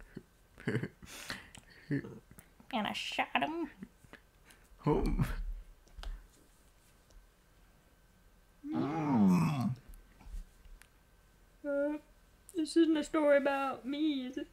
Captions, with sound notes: hehe heh and i shot im homf (Grunt) Uuh this isn't a story about me, is it?